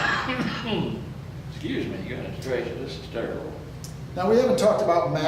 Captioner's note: coughs